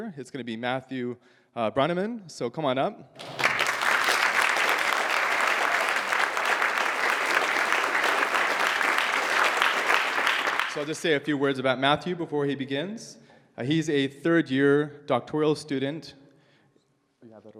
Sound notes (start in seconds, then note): 3.2 applause